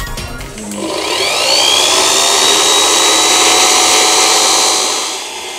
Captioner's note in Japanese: けたたましいブロワーの音